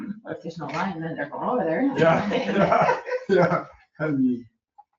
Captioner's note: group laughing